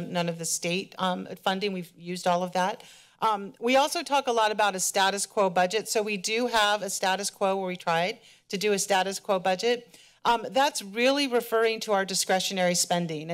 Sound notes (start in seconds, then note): none